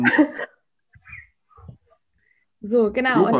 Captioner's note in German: Gelächter